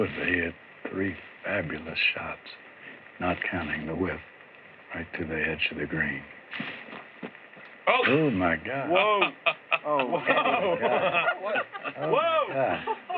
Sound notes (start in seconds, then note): 8.8 laughs; 12.9 laughter